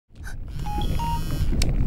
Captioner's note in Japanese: 着信音